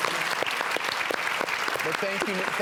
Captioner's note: audience applause